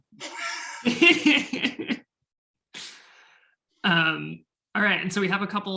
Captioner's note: chuckling